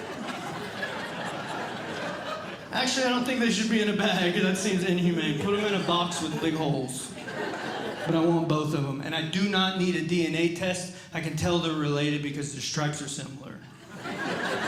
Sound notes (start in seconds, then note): 0.2 audience Laughing; 7.4 audience Laughing